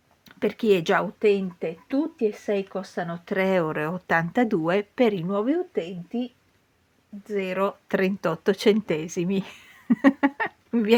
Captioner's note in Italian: risate